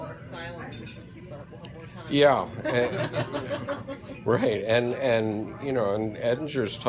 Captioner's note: laughter